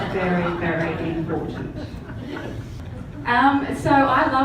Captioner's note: audience laughs